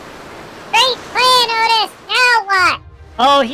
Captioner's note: sarcastically yelling